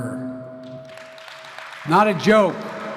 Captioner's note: applause